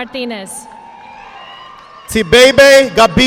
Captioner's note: audience applauding